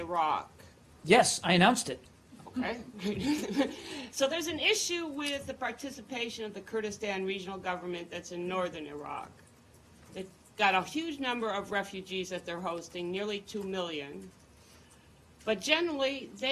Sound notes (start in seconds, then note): 3.0 laughter